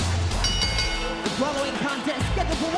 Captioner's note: bell rings